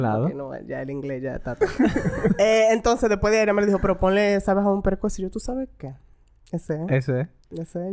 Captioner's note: laughs